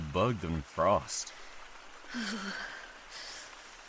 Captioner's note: shivering